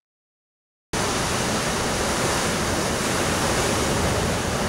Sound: heavy wind and waves crashing

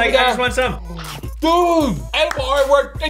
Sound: chomping

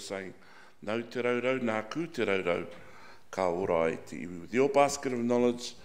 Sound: speaking in foreign language

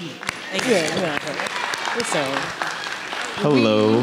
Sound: audience applauding

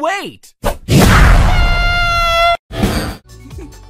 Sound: screaming

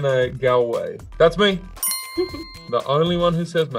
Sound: bell dinging

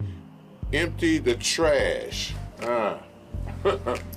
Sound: chuckles

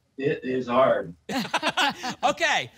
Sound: laugh

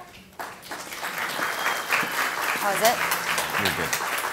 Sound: audience applauds

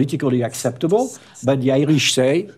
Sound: whispering

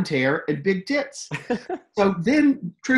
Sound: laughs

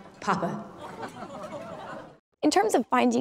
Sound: crowd laughs

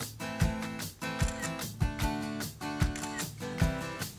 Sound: camera clicking

